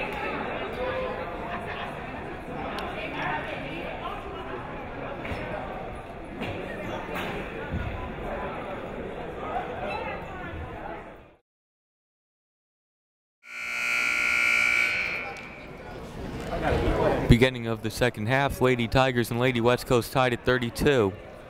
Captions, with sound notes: (buzzer ringing) (people talking in the crowd) Beginning of the second half, Lady Tigers and Lady West Coast tied at 32.